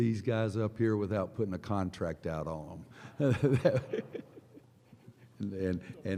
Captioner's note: laughter